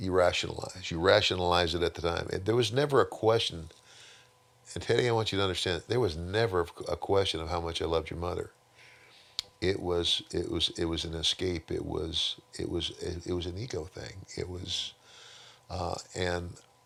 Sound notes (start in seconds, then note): none